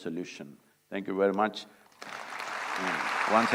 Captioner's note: applause